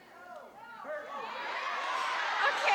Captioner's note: audience yelling